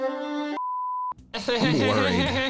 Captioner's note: classical music; video beeps; laughing